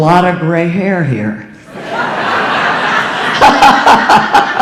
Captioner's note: audience laughing